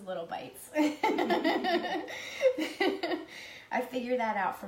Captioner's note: laughs